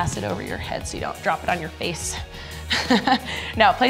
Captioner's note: laughs